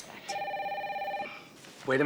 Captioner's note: phone ringing